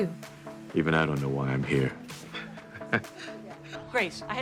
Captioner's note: laughs